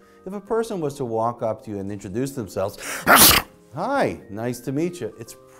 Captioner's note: sneezes into hand